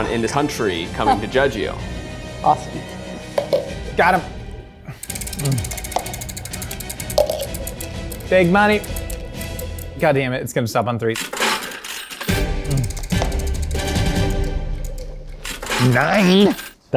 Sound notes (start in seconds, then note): 1.3 chuckles; 5.4 suspenseful music